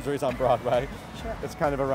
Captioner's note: laughs